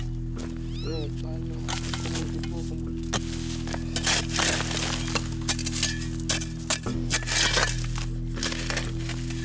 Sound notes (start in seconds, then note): 3.0 sounds of digging